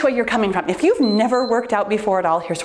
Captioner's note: timer beeps